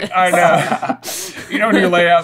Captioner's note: laughter